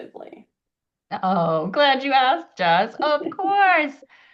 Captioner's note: laughs